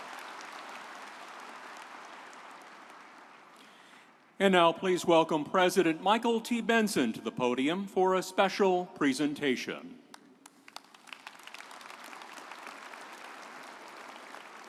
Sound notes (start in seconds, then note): 10.4 audience applauding